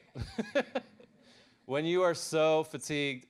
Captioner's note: laughs